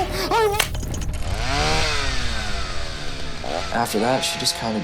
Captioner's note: chainsaw rumbling